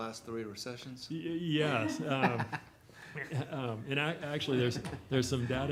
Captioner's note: people chuckling